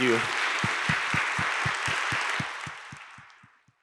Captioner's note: applause